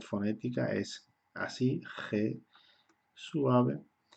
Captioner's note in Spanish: suave